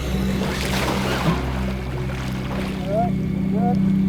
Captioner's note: water splashing